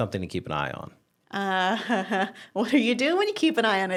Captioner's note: laughs